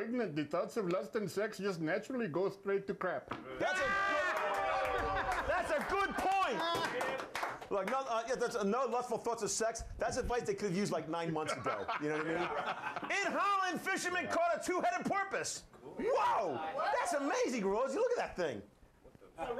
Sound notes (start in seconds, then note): 3.6 audience cheers; 8.8 audience cheers